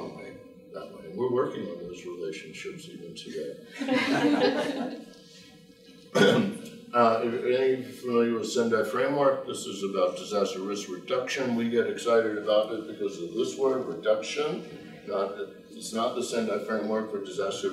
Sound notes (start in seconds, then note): 3.7 group laughing